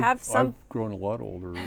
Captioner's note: laughter